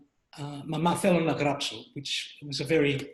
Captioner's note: speaks greek